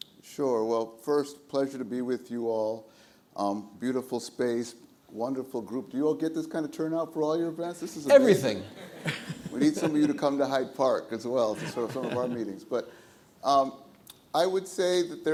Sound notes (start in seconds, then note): 8.6 audience laughs; 8.6 laughs